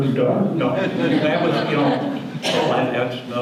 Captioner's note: audience laughter